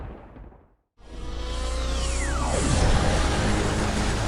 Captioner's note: thunder pounding; futuristic buzz